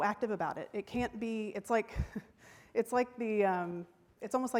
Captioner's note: chuckles